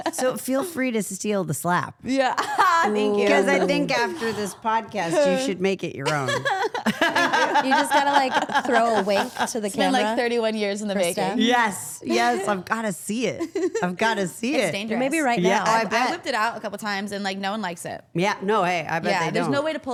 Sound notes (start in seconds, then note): 2.4 chuckles; 6.0 all laughing